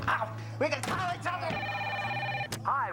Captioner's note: telephone rings